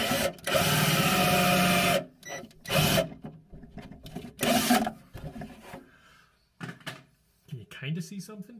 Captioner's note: drilling